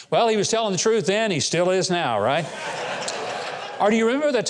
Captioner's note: audience laughing